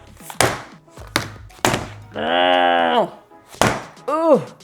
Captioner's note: groans